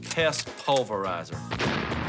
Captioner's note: explosion